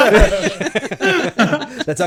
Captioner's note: laughing